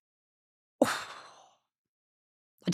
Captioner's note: sighs